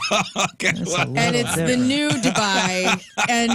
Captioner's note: laughing